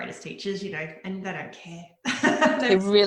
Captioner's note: laughing